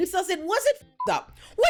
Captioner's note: beep